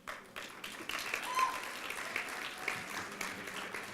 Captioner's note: applause